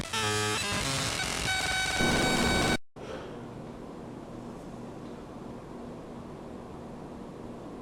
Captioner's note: loud audio distortion